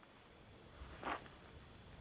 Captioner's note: insects chirring